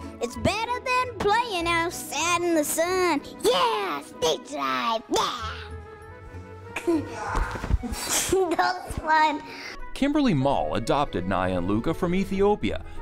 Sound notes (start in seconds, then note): 7.8 giggles; 7.8 laughs